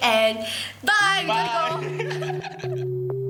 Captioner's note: laughing